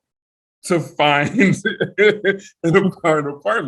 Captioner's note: laughs